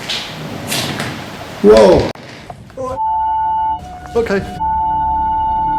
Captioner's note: beeping